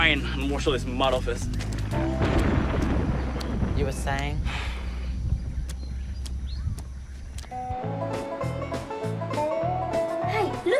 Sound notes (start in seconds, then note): 1.8 thunder rumbles; 7.6 bluegrass music plays